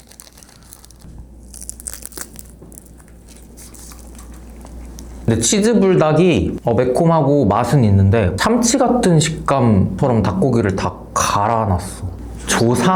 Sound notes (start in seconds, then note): 0.0 Crunch